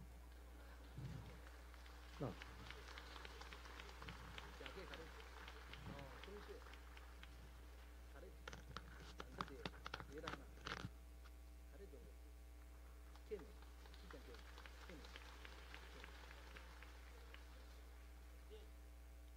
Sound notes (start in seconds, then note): 2.3 applause; 13.0 applause